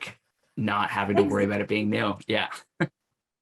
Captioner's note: laughs